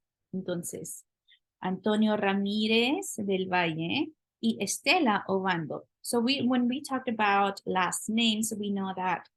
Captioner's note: spanish